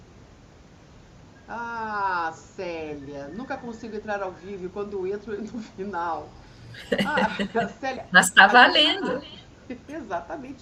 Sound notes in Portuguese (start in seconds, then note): 6.8 risadas